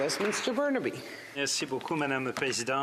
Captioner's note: some Applause